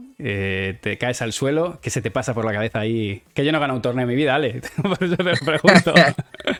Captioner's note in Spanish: risas